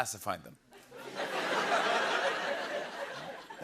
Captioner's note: laughter